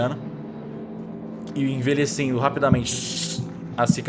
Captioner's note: suush